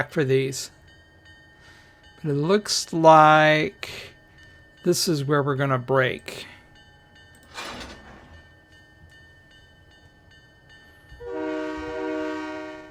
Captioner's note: train whistle